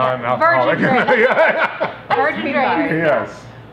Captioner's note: all laugh